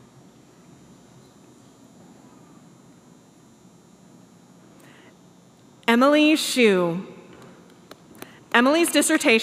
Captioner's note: applause